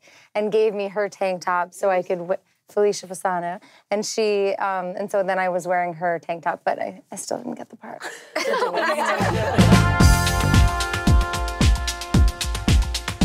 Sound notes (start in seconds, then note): 8.0 laughter; 8.7 upbeat, rhythmic music